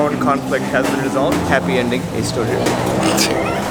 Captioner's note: laughs